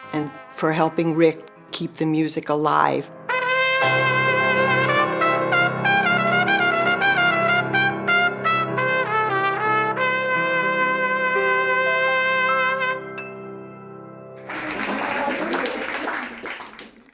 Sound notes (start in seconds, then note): 14.4 people clapping